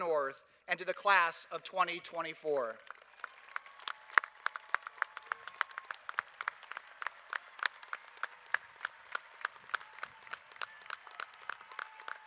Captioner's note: applause